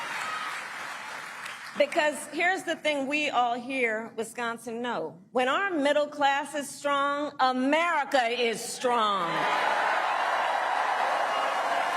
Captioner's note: applause